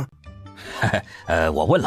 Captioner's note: uneasy laugh